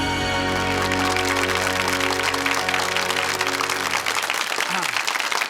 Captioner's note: audience applauding